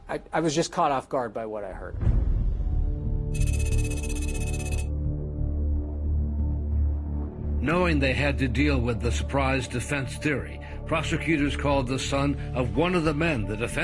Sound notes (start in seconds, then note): 1.9 dramatic music; 3.3 rapid electronic beeps